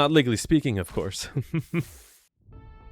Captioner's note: chuckles